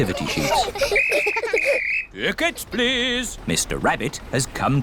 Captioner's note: blows whistle